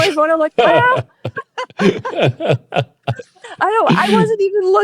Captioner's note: both laughing